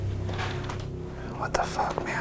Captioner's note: object thuds